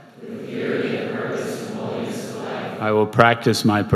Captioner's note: crowd